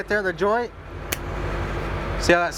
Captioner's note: crack